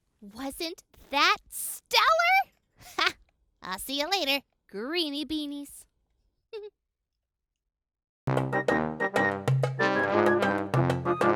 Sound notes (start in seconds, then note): 6.5 giggles; 8.3 upbeat music